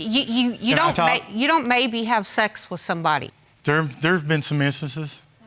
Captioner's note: stammering